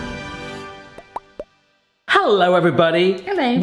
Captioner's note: upbeat music; bubbles pop